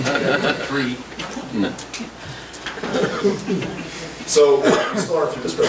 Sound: group laughs; overlapping chattering

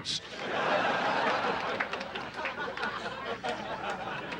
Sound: audience laughing

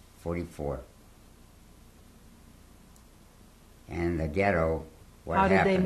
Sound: pauses for 3 seconds

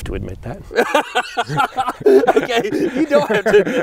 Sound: laughing

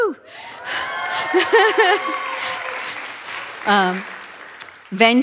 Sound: audience cheers; laughs

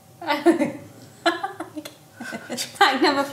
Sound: laughs

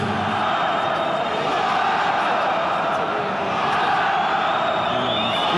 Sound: announcer speaks in Portuguese; crowd cheering and whistling

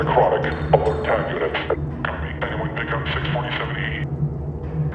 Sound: radio

